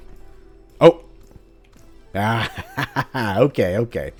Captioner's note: triumphant, relieved laughter